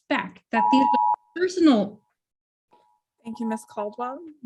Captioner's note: timer beeping